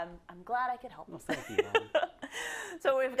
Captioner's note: laugh